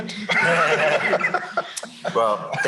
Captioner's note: laughter